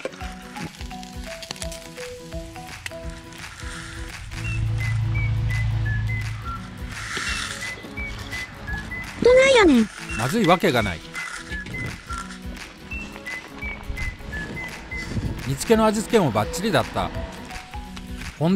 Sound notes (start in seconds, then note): 0.8 the sound of burning fish; 7.4 the sound of eating